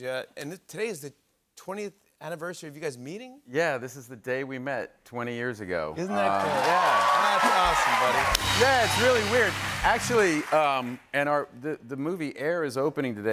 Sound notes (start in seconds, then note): 6.0 cheers and applause